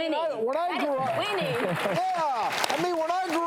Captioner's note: audience applauds